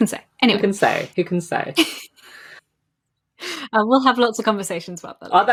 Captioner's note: laughs